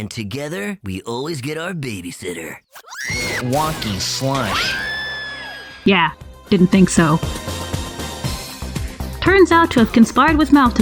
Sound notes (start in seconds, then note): 2.7 screams; 3.2 wocky slosh sfx